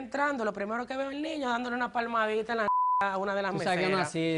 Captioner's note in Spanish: Bip